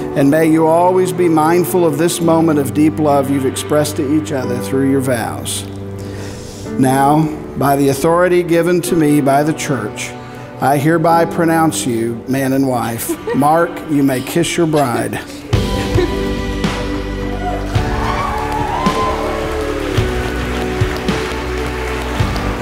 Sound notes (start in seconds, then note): 16.3 crowd cheers; 20.0 soft music